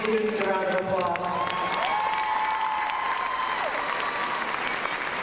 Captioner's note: crowd cheers